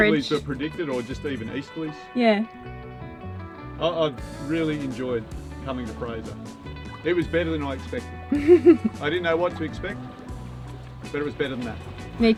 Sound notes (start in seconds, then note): 8.3 chuckling